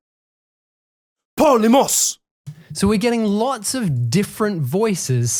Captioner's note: man 3 speaking Greek in recording